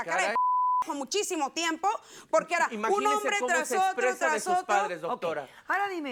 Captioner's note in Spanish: Bip; Bip